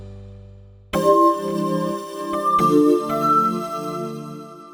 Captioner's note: gentle chiming